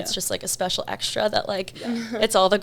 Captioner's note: chuckles